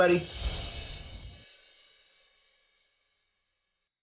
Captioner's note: chimes tinkling